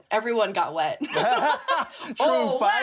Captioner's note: laughter